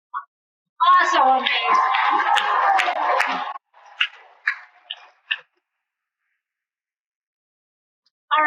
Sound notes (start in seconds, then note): 0.8 cheering and Applause